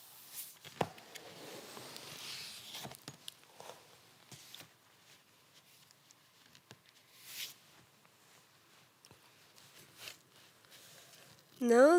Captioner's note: fabric rustling; scraping